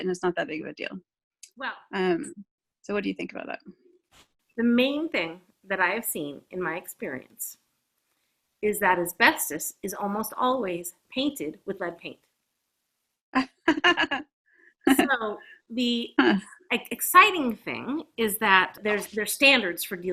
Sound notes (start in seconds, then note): 13.4 laughs